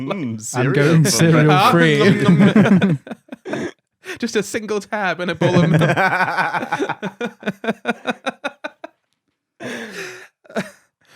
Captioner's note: more laughing